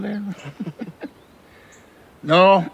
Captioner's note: both laughing